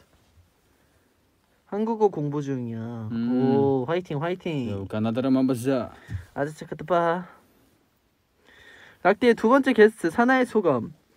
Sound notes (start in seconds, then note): 4.8 Korean